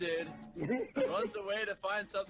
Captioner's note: laughter